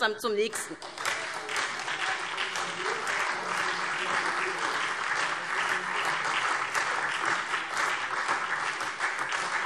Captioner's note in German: Beifall SPD